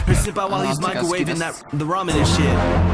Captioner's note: in japanese